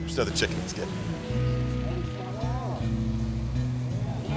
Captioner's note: announcer heard in distance